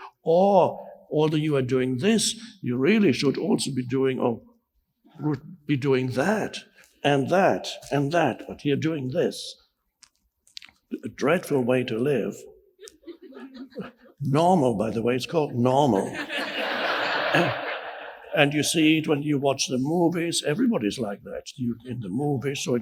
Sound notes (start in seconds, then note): 12.8 audience chuckles; 15.7 audience laughs